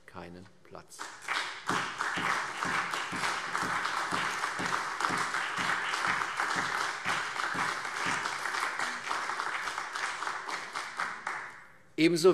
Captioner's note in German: Beifall CDU, BÜNDNIS 90/DIE GRÜNEN und AfD